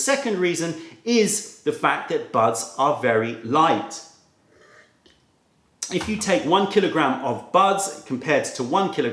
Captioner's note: sips tea